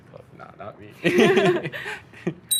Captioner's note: laughing